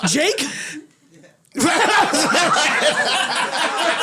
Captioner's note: laughs